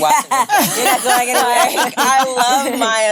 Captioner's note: all laughing